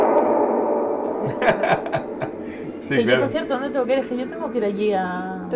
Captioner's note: laughs